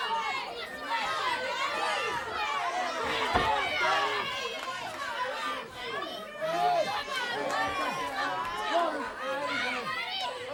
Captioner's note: crowd chatter